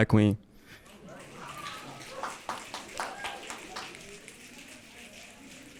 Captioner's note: audience clapping and cheering